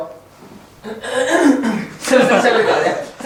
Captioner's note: coughs